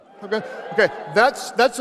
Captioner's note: audience cheering